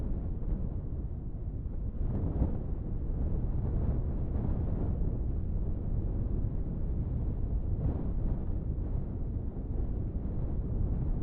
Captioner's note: wind